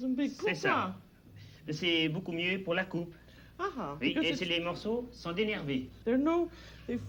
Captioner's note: both conversing in French